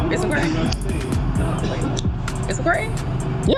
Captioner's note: noisy city